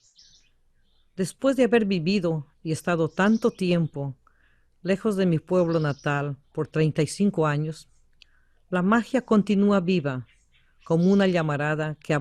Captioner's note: VOICE-OVER in Spanish